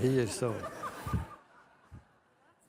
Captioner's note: laughter from the audience